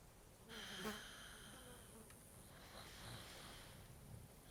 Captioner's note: fly buzzing